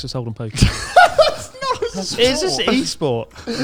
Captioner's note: laughs loudly